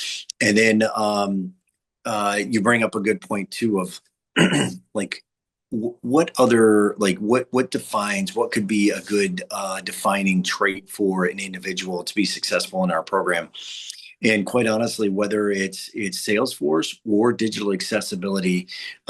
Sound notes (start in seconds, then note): 4.4 clears throat